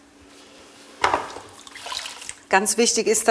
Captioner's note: splashing